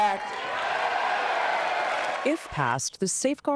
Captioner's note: cheering